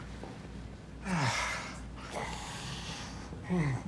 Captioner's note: Johnathan exhales